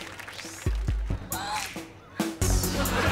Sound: gasping

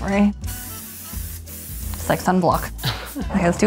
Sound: spray can hissing

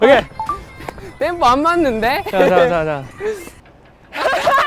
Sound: laughing

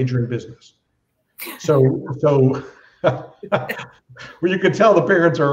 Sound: laughter

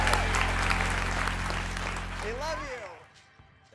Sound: audience applauding

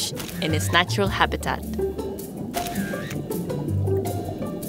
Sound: camera clicks; camera clicks; lighthearted music

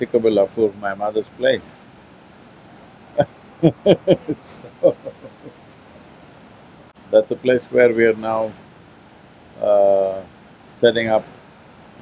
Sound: laughs

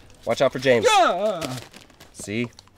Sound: screams

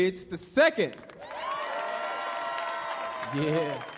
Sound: audience clapping; audience cheering

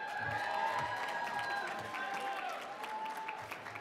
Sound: cheering

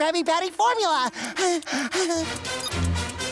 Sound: panting

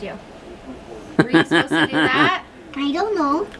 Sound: laughs

